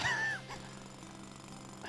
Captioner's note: laughs